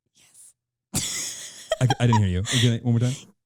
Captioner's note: laughing